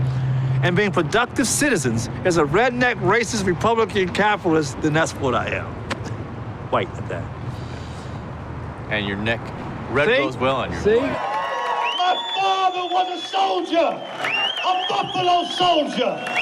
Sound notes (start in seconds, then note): 10.9 crowd cheering